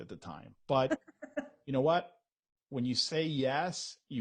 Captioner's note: laughs